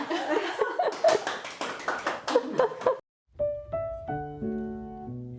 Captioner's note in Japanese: パチパチパチパチ